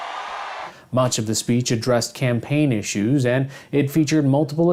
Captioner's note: cheers and applause